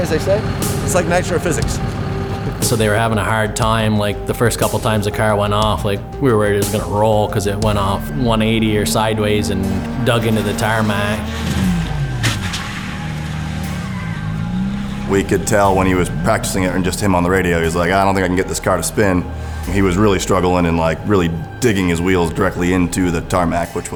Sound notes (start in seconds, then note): 7.7 car engine roaring; 12.2 car screeching